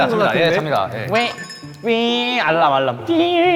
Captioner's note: A familiar alarm sound